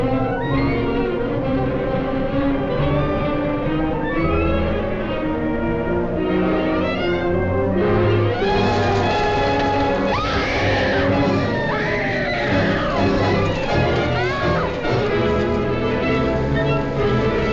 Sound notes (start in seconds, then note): 9.3 Christine screaming; 9.3 dramatic music